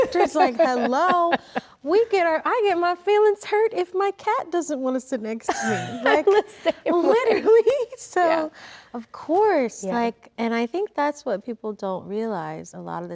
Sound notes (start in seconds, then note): 5.5 Rachel laughs